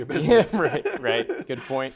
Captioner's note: laughter